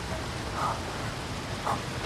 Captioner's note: panting